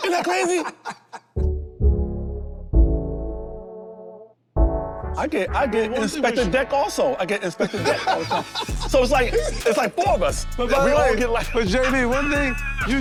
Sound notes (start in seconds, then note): 1.3 slow upbeat music; 7.6 laughs